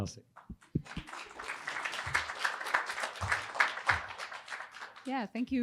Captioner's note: attendees applauding